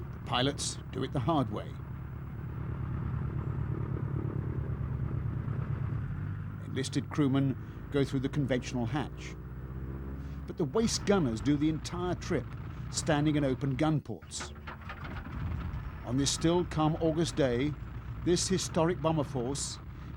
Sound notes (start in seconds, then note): 1.7 rumbling